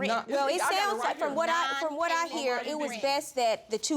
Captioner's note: both arguing